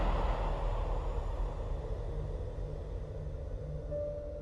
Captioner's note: wind whirling